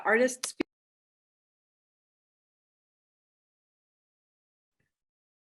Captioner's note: no sound